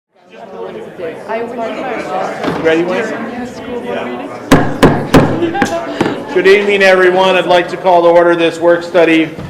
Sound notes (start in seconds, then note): 0.5 group talking